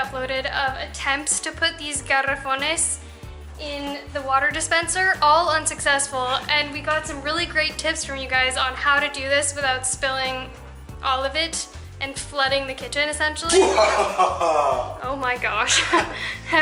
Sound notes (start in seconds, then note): 13.5 sarcastic Evil Laughter; 15.7 laughter